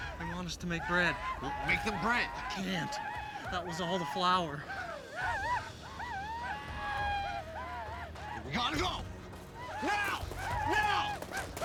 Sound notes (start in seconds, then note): 4.4 paiute whooping